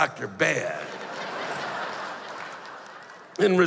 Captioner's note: laughter